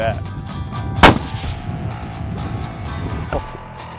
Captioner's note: gun Shot